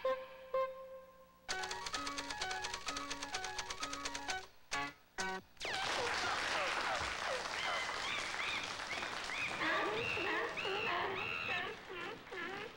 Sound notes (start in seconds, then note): 5.6 wild applause; 9.6 seal bar, monkey screams